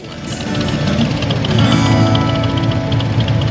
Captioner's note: engine rumbles